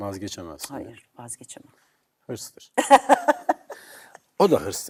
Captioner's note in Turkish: kahkaha